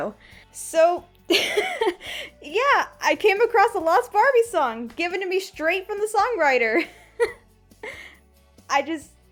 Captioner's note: laugh